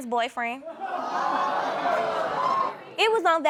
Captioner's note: audience exclaiming